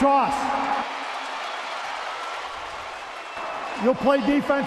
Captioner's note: crowd cheering